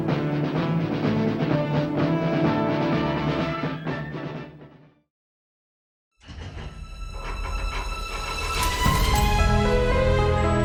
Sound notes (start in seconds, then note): 1.9 dramatic music ends; 6.3 vault clacking sounds